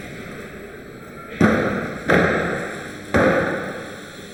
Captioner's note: doors clunking